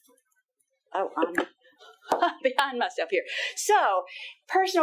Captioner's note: laughing